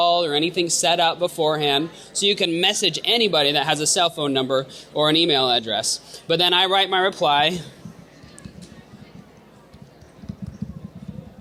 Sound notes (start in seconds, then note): 9.8 typing